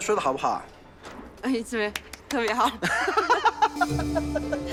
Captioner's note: laughing